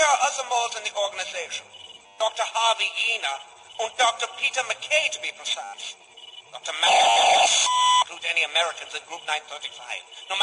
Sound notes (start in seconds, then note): 4.9 static